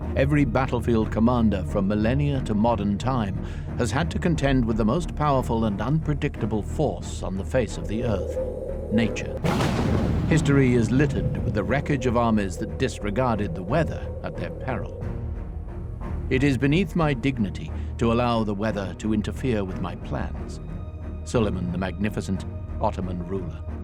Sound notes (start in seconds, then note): 9.4 thunder crackles; 9.8 suspenseful music